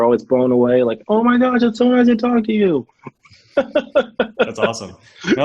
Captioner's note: laughs